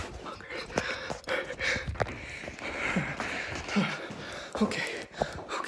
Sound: Chad breathing heavily

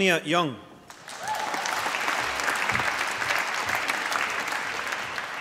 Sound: applause

